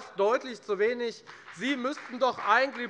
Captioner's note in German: Beifall bei der FDP